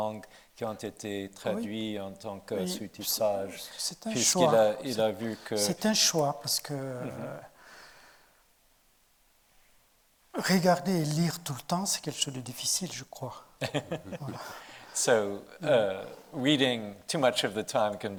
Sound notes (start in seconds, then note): 6.1 speaking in French; 13.6 laughing